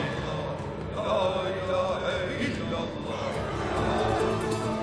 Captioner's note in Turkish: Hep bir ağızdan; Müzik - Gerilim